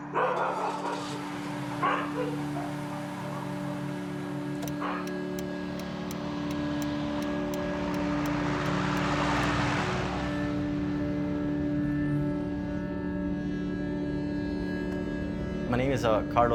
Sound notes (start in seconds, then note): 0.3 car starts; 4.6 turn signal clicking